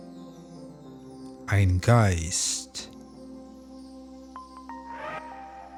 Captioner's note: german